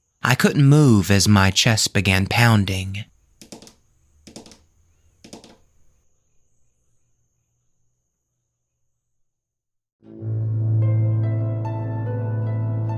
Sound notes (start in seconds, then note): 3.5 tapping; 5.6 gentle music